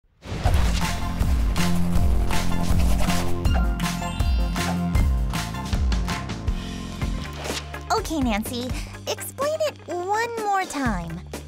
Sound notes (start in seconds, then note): 0.2 intro jingle; 7.1 page turn